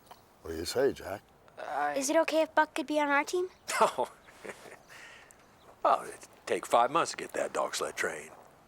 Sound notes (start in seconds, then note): 3.6 laughing